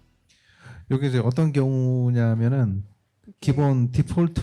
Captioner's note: speaking korean